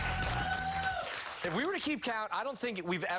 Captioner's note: cheers and applause